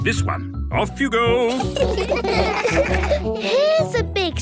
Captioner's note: laughter